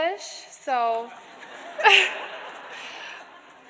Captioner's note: laughter